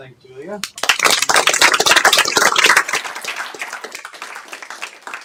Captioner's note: applause